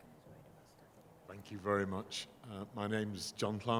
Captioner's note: voiceover